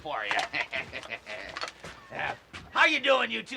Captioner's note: chuckling